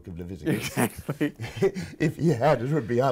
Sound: laughing

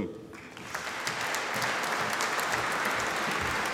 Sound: audience applauding

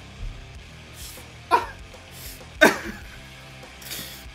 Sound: slowly recovering from laughter

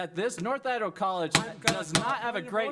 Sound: gavel banging

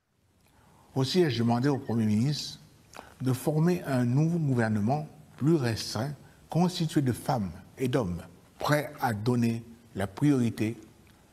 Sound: speaking french

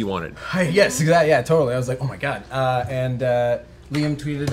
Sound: none

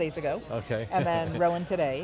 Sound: chuckles

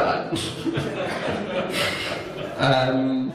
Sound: audience laughs

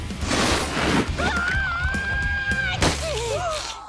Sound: screaming

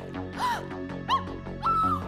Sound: gasp; scream

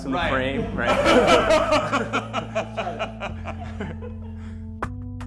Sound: laughter

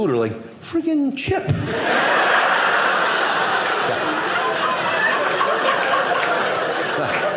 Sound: audience laughing

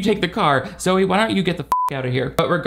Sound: beeps

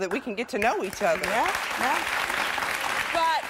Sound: audience applause

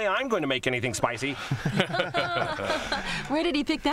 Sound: laughing

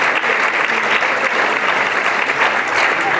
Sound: applause

